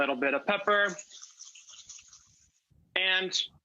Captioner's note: sausage sizzling